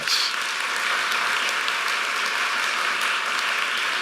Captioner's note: applause